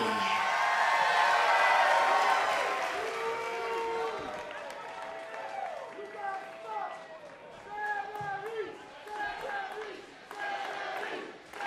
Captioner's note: crowd cheering